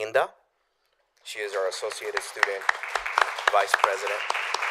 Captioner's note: applause